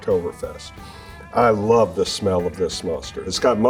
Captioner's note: sniffs